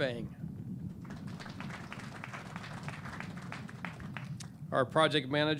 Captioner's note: clapping